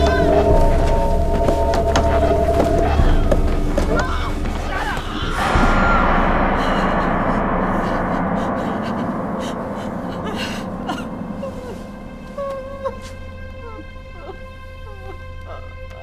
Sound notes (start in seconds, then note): 5.8 Louise screaming; 8.6 gasping; 11.0 sobbing; 12.4 somber, dramatic music